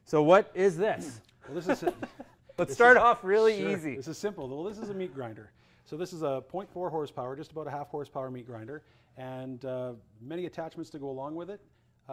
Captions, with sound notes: - So what is this? - This is a-- (chuckles) - Let's start off really easy. - It's a simple, well this is a meat grinder. So this is a 0.4 horsepower, just about a half horsepower meat grinder, and many attachments to go along with it.